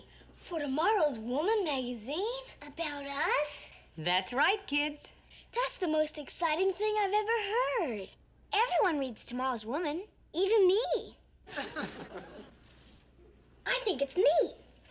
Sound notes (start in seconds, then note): 11.5 laugh